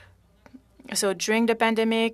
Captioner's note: speaking French